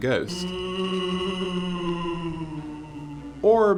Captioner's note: ghost booing